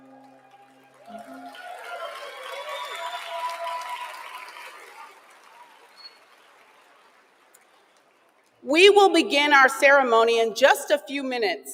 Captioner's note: applause